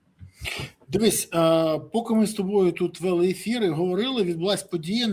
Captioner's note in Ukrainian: сопіння